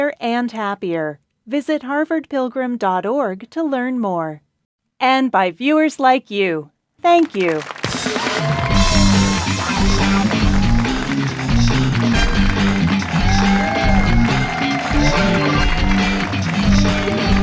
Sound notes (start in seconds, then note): 7.4 crowd cheering; 8.5 upbeat funk music